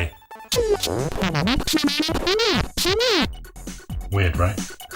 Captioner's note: warbling LCP synthesized voice